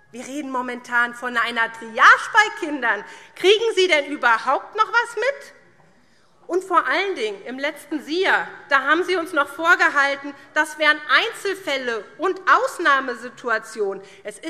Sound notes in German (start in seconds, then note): none